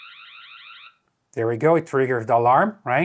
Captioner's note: alarm beeping